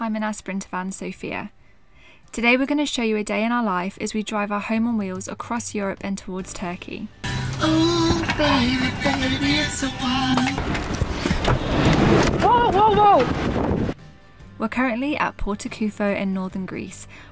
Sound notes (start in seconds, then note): 7.5 singing; 10.1 wind howling